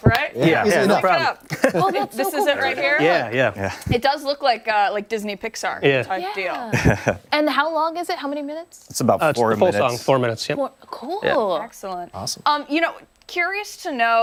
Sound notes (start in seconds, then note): 6.6 laughter